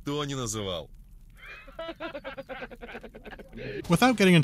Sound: people laughing

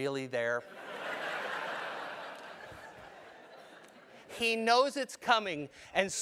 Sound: laugh

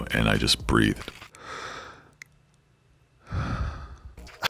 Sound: breathes

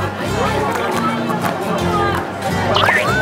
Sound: slurping

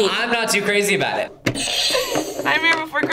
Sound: buzzer rings

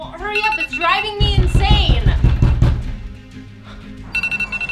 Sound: knocking

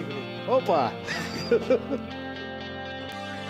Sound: laugh

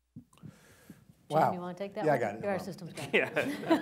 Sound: laughter

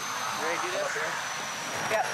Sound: airplane noise

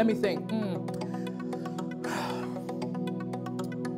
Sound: sighing

